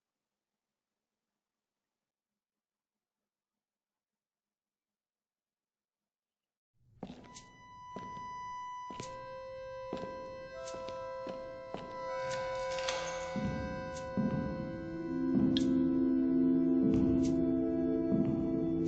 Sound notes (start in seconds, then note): 7.7 footsteps; 14.3 echoing footsteps on wooden floor